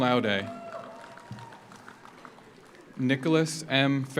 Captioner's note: audience cheers; audience applauds